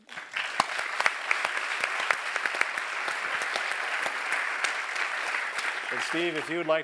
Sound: applause

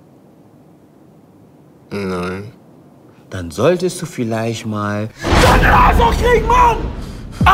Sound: screams

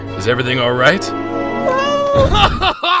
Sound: meow

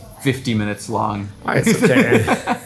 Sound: laughing

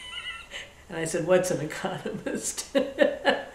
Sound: laughs

